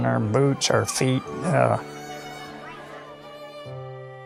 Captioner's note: people chattering